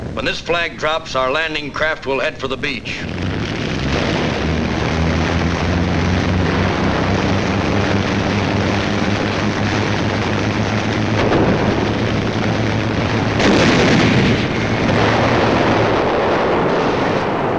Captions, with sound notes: When this flag drops, our landing craft will head for the beach. (landing craft roaring) (guns blasting)